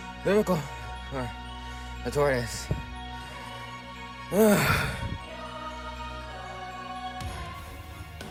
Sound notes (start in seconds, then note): 4.3 heavy breathing after training